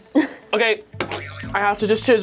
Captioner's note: buzzer springs